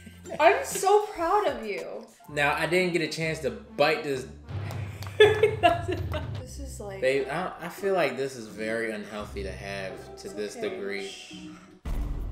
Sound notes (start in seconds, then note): 5.0 laughs; 5.8 knocking